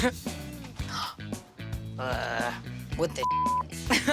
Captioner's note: laughing; gasping